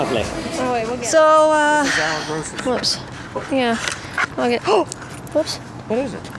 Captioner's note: gasps